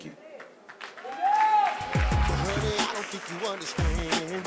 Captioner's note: applause